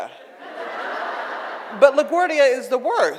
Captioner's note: audience laughs